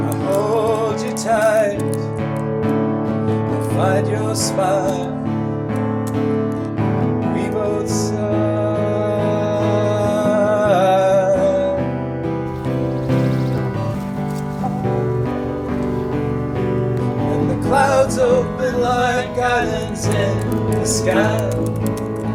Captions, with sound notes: And I hold you tight. I find your smile. And we both sigh. [Birds chirping, chicken cooing] Narrator singing, voice doubled: And the clouds open like islands in the sky.